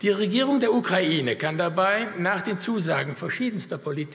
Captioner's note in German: none